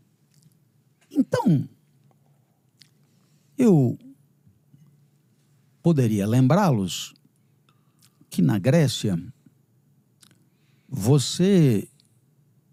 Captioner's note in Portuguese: limpando a garganta